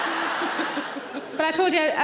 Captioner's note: she giggles